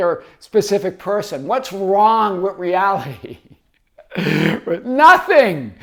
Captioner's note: laughs